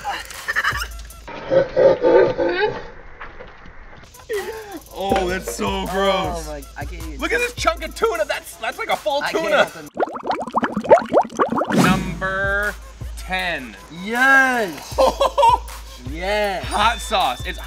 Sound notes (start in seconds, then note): 9.8 liquid bubbling; 14.8 laughing